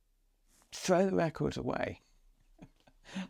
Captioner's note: laughs